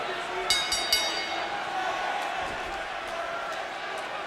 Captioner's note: bell rings